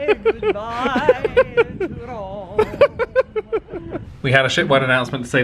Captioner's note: laughing